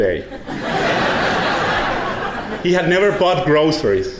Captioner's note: audience laughing